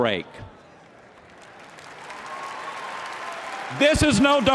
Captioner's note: applause